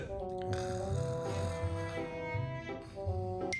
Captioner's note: laughing; snoring